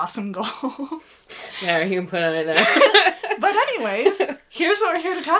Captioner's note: laughs